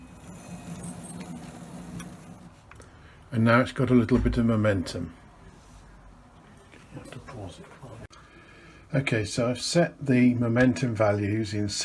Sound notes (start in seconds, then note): 0.0 whirring